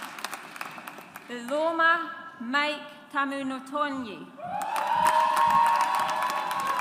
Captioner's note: audience applauds